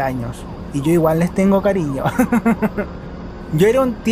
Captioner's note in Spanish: risas